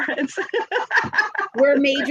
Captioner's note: laughs